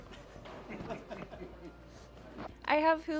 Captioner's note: laughing